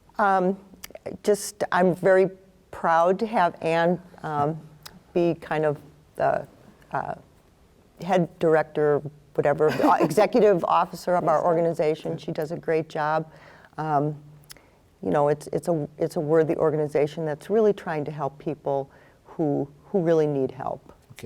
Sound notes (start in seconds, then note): 6.2 stammers